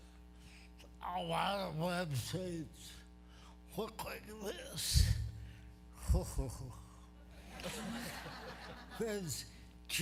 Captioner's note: laughter